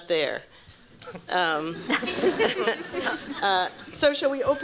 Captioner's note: laughter